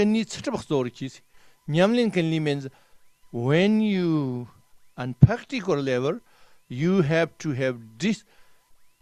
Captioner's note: tibetan